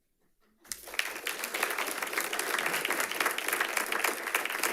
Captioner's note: audience applauds